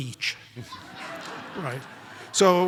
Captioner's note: audience laughs